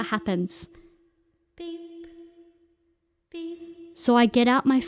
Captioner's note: echoed voice “beep”